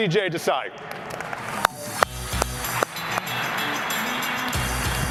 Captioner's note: applause